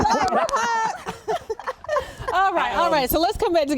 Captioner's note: laughing